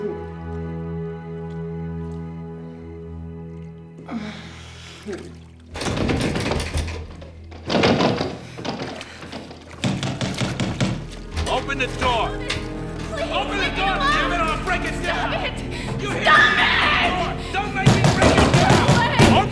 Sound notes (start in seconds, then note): 0.1 soft groaning; 5.8 banging on door and latch clicking